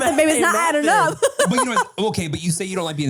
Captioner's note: laughs